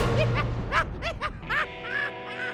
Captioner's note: laughing